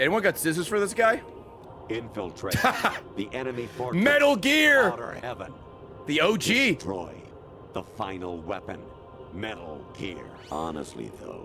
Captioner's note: laughs